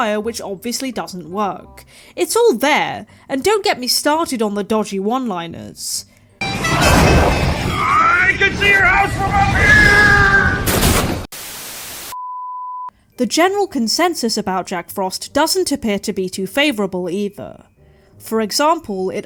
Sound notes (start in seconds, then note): 10.7 static